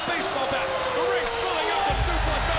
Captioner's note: wolf howls